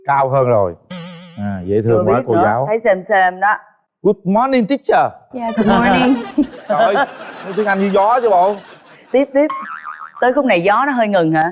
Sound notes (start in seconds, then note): 5.5 laughs